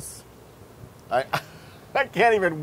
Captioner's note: laugh